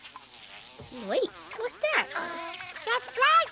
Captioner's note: fly buzzing